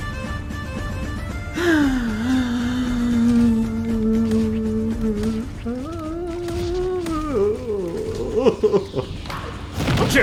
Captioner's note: whimpering